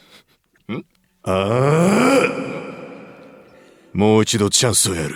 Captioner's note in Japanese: うめき声